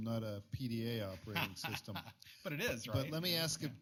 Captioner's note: laughs